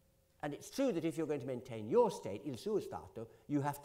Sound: italian

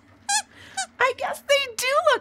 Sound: squeaks squeaking

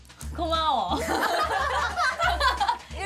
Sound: laughing

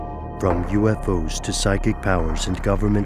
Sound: voiceover

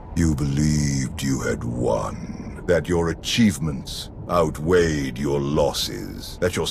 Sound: Valkorion's taunting voice

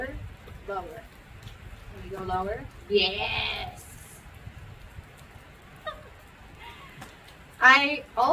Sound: laughs

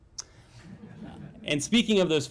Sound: laughter

